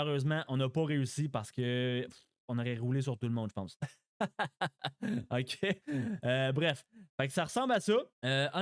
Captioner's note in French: rires